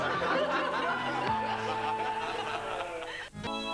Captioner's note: laughter